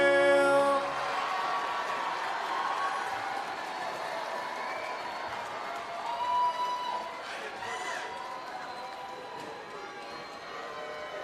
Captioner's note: cheering